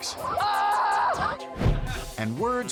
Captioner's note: videographer screaming